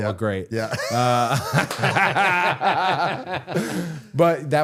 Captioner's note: both laughing